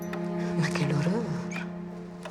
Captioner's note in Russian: Говорит по-французски